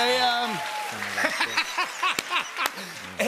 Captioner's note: laughs